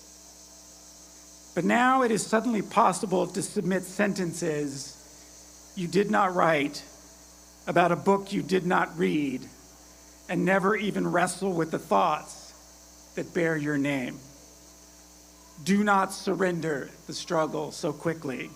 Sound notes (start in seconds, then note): none